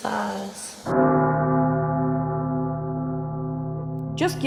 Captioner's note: bell tolls